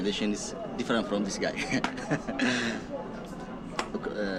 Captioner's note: man laughing